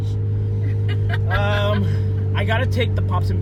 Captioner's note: laughing